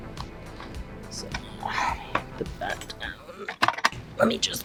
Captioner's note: muttering